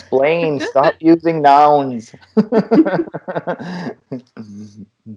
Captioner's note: laughter